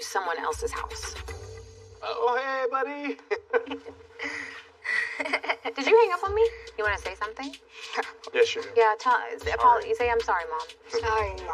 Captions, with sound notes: seling i to someone else's house. - He bdy. [chuckles] Did you hangp on me? You wantthing? - No. - Yes, you do. - Yeah. Apol-- you sa I'm sorry, Mom.